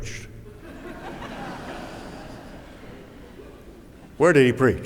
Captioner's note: laughter